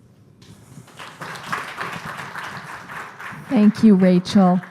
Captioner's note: clapping